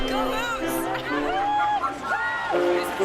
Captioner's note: whooping